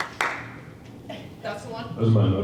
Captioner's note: clapping